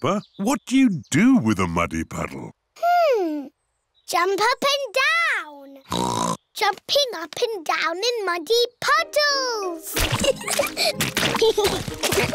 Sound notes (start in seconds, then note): 5.9 oinks; 10.0 both giggling